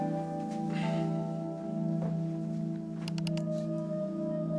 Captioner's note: sighs; mouse clicks